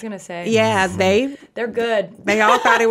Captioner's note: laughs